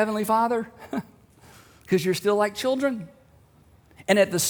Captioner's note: chuckles